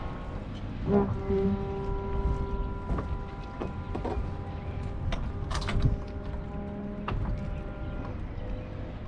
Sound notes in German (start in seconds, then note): 0.1 weiches vibrierendes Geräusch von der Öffnungsseite